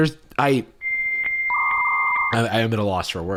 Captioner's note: beeping